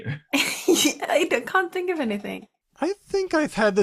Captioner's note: chuckles